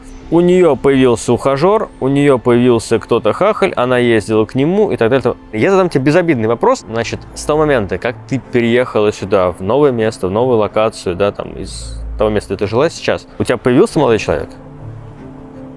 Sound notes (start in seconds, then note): none